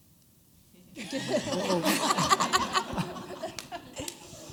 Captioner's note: laughter